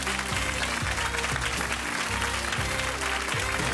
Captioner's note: crowd applause